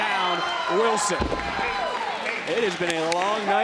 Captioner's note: audience cheering